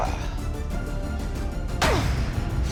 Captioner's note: grunt